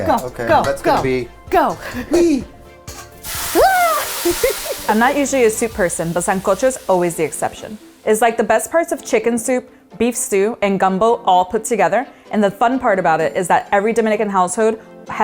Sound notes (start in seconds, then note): 3.4 screams; 4.0 pot sizzles